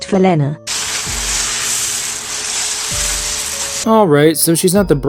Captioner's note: men shovel pebbles